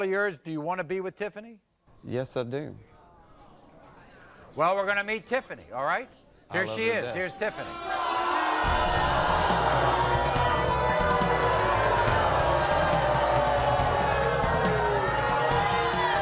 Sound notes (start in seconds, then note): 7.7 audience boos